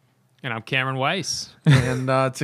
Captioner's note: laughter